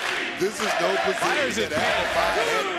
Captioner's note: crowd chants "nxt"